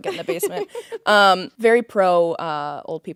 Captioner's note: Courtney laughing